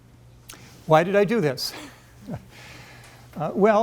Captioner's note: chuckles